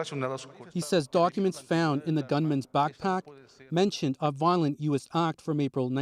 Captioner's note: speaking spanish